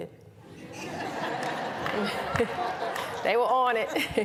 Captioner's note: laughter